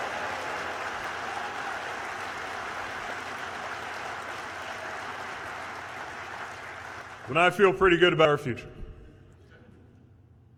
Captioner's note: cheers/applause